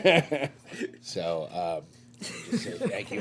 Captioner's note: laughter